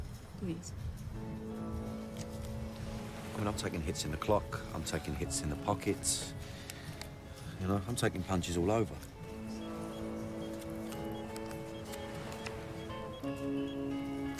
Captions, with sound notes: PLEASE. I MEAN, I'M TAKING HITS ON THE CLOCK. I'M TAKING HITS IN THE POCKET. YOU KNOW, I'M TAKING PUNCHES ALL OVER. ( dialing )